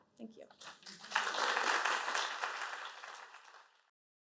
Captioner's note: applause